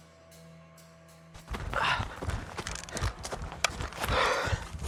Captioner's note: running footsteps; inhales sharply